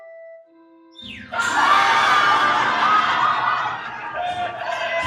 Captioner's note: slapstick crashing sound and laughter